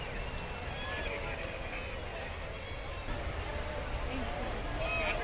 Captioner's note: applause